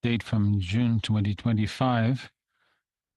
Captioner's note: speaking in French